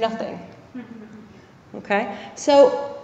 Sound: laugh

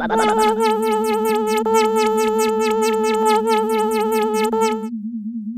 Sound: motor slowing down

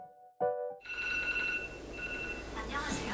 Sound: the alarm sound breaks the silence

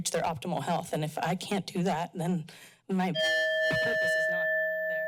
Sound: timer dings

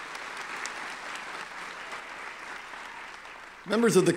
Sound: applause

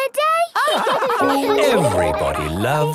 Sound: all laugh

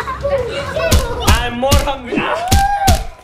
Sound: stick thumping

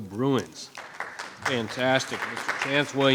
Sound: audience applauding

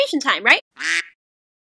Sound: quack

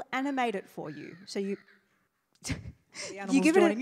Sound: bird chirping

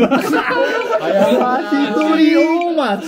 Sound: laughing

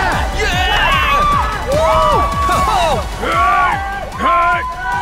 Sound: scream

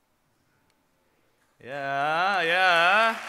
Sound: applause

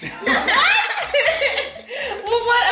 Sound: family laughing

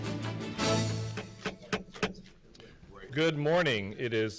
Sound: hits gavel

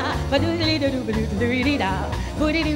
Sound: none

